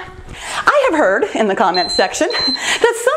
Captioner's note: timer beeps